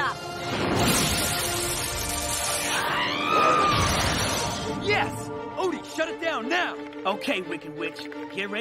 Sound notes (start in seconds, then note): 2.6 screaming